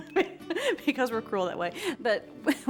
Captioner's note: laughing